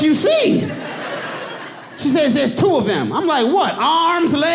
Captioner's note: audience laughing